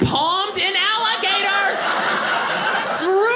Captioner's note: audience laughing